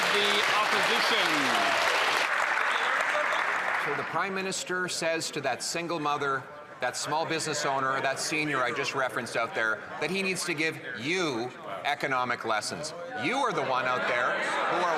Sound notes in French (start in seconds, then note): 2.7 voix de l'interprète